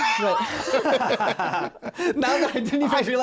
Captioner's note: laughing